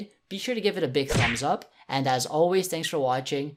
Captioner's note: smack